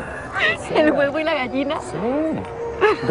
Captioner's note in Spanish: Ríe